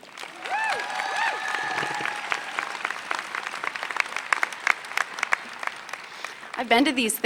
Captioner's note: applause